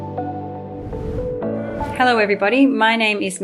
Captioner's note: gentle upbeat music; page whooshing